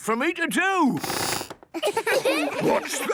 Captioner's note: squeaks